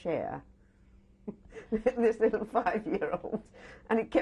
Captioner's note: laughs